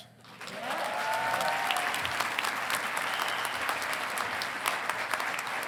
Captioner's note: congregation applauding